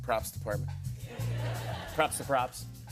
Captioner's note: laughter